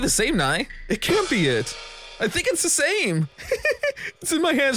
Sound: laughs

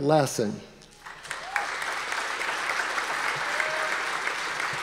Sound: audience applause

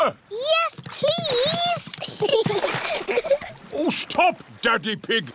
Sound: giggles

